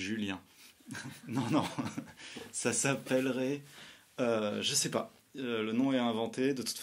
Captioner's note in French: Rire